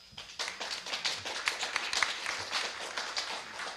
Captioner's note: audience clapping